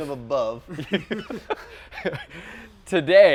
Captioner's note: laughing